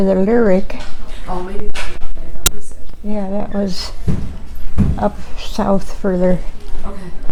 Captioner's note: microphone glitching